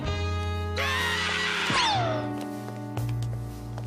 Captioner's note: screaming